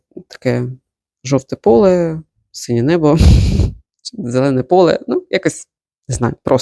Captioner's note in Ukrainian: сопіння